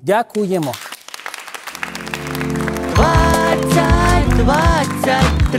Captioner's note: applause